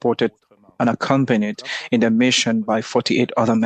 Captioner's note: speaking French